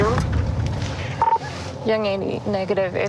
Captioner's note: radio beeps